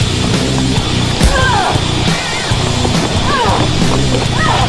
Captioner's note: rock music; Kristen groans